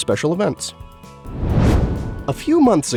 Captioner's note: whoosh